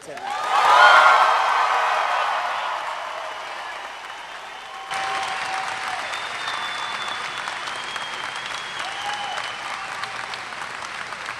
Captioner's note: applause